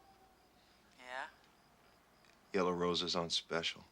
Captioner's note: Rene Over Telephone